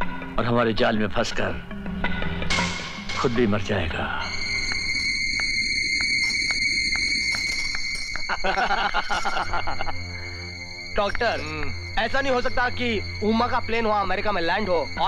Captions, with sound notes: He'll get trapped in our net and die. (Laughs) Doctor, is it not possible, that Uma's plane lands in America...